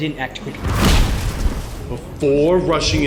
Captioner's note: power striking